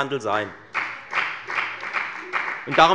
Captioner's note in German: Beifall bei der FDP